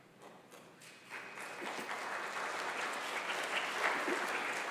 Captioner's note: congregation applauds